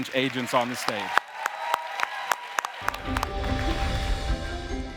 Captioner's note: audience cheering and applauding